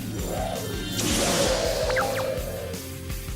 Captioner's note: debris growls